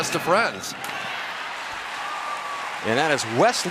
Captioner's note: cheering